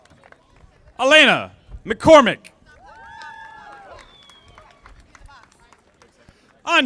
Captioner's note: audience applauding